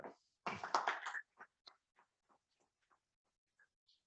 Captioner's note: audience claps